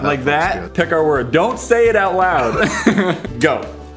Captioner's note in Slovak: smiech